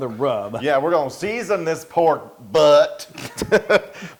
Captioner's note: laugh